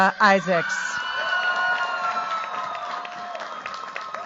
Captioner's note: cheers, applause